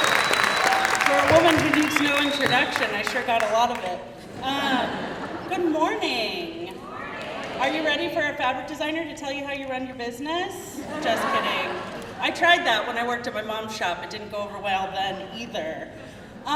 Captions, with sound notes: - For a woman who needs no introduction, I sure got a lot of it. (crowd laughing) Good morning. - [Crowd] Good morning. Are you ready for a fabric designer to tell you how to run your business? (crowd laughing) Just kidding. I tried that when I worked at my mom's shop it didn't go over well then either.